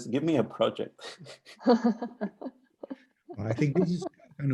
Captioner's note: laughing